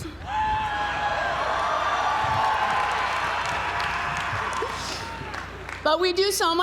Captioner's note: applause